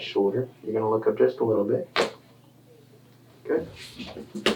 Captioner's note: bones cracking